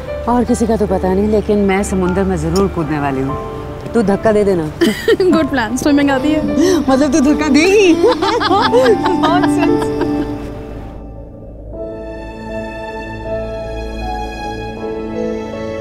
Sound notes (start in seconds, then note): 4.8 laughs; 7.8 laughing